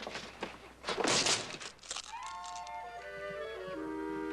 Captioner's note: glass shattering